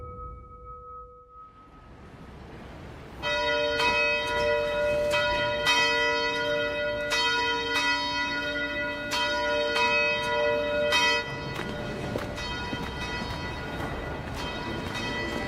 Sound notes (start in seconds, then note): 3.2 bell ringing